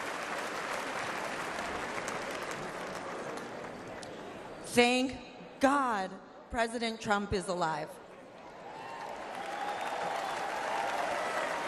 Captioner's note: applause